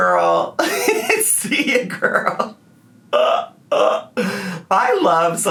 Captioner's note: laughing